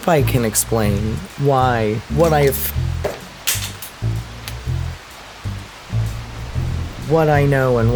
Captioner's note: items falling on floor